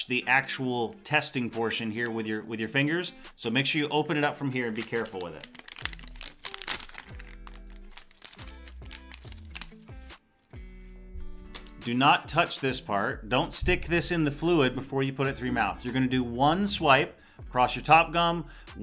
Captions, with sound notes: the actual testing portion here with your fingers. So, make sure you open it up from here and be careful with it. (plastic tearing) (soft music) Do not touch this part. Don't stick this in the fluid before you put it through your mouth. You're gonna do one swipe across your top gum,